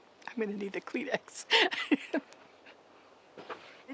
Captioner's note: laughs